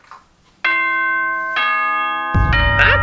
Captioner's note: ding ding bong bing